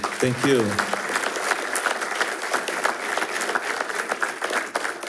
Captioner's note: attendees applauding